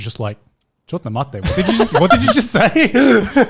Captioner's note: speaking foreign language